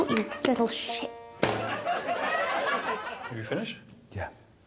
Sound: audience laughing

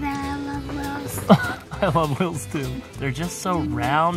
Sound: laughs

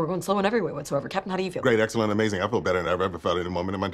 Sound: fast voice

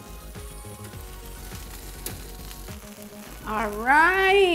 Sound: pan sizzling; upbeat music

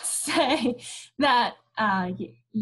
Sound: chuckles

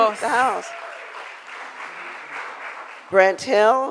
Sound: crowd applauds

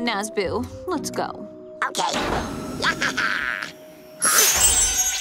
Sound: giggles

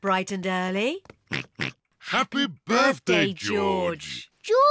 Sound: oinks

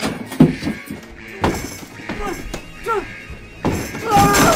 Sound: alarm ringing

